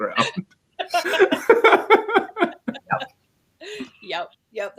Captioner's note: laughter